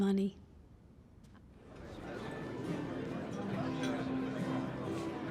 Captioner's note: quiet chatter